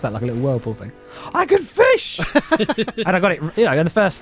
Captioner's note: laughs